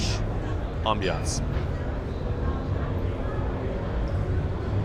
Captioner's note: people chattering